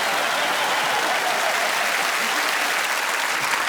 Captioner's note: laughter, applause